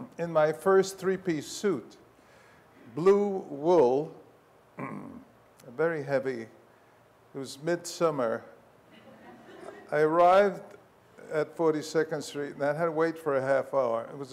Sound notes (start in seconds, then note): 8.9 audience laughs